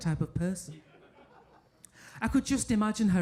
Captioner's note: audience laughing